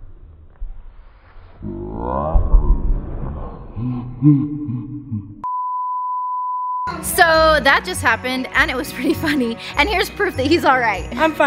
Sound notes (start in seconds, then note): 2.3 Stephen thudding; 4.1 deep slow motion laughing; 5.4 beeping